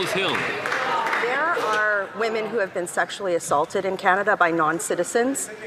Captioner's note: some Applause